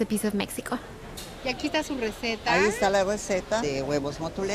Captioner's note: speaking Spanish